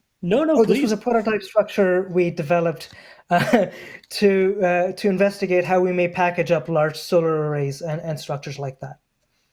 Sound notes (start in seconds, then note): 4.5 laughs